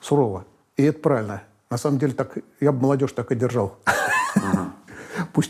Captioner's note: laughs